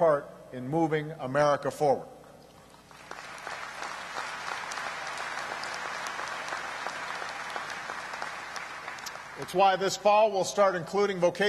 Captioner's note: applause